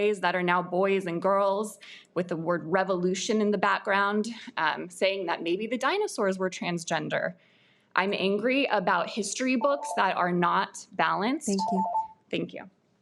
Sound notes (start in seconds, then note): 11.5 alarm beeps